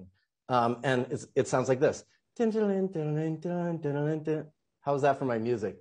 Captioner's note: humming softly